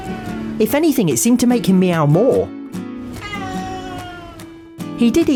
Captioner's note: Ralph meows ‘I just like meowing for no reason’